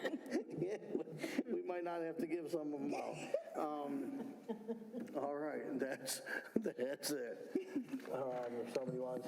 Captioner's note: laughter